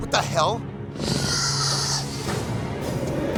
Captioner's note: growling